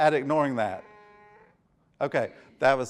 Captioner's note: phone buzzing